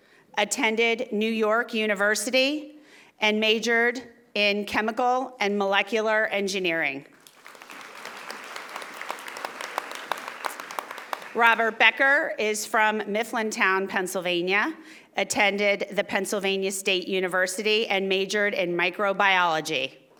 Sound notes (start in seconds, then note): 7.1 audience applauding